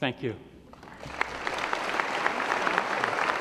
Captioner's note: applause